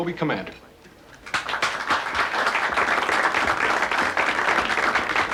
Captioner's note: applauding